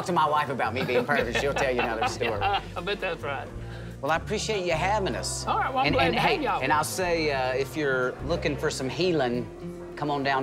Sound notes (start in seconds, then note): 0.7 chuckles